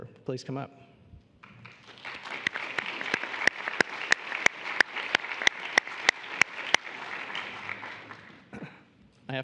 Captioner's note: applause